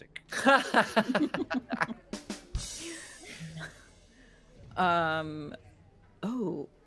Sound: multiple chuckling; comedic drum line

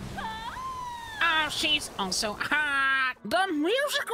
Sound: Squidward Voice

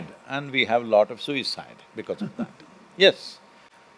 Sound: Manish Laughs

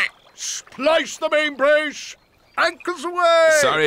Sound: quacks

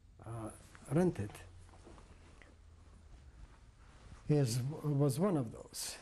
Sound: pauses for 3 seconds

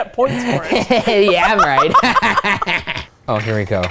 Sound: laughing

